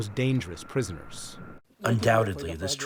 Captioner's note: through translator